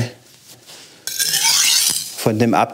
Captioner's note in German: Schleifgeräusch